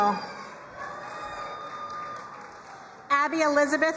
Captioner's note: crowd cheering and applauding